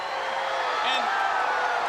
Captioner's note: crowd cheering